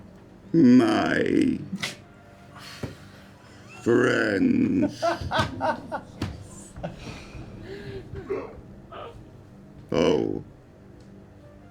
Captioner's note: speak-and-spell voice